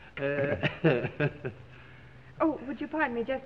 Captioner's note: chuckling